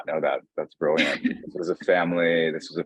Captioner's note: chuckling